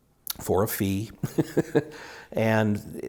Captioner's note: laughs